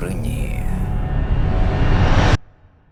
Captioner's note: tense sound